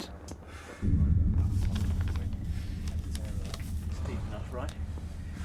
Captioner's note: distant explosions